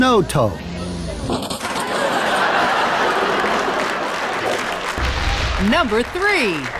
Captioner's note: engine revving and metal popping and ripping